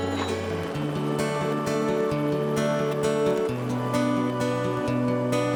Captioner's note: helicopter blades thumping